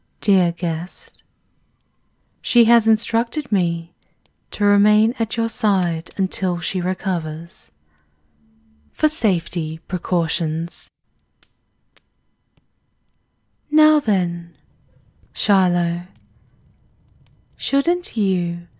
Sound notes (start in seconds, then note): none